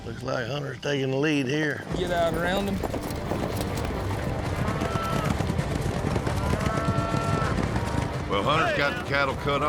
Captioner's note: fast hoofbeats